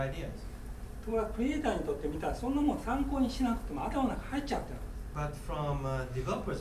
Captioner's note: speaking in foreign language